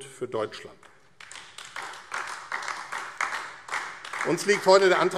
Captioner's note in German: Beifall AfD